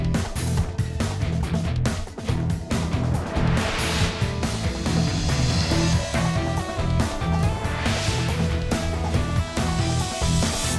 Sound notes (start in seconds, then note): 2.7 air whooshing; 6.1 energetic electric guitar music; 7.9 air whooshing